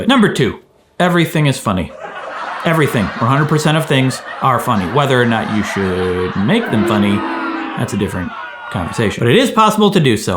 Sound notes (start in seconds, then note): 2.1 crowd laughs; 7.2 crowd boos